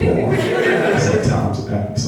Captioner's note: laughing